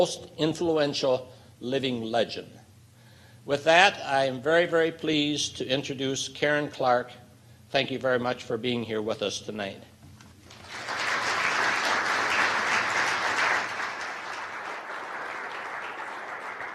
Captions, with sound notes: Most Influential Living Legend. With that I am very, very pleased to introduce Karen Clark. Thank you very much for being here with us tonight. (applause)